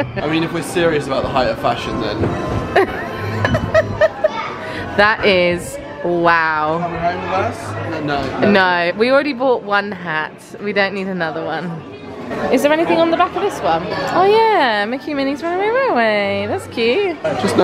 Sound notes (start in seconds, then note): 0.1 laughing; 2.7 laughing